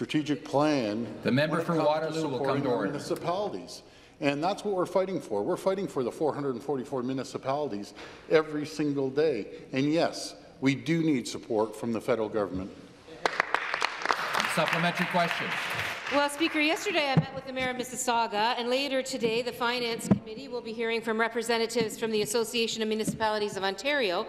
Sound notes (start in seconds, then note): 16.3 applause